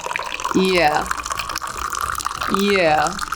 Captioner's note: tea trickling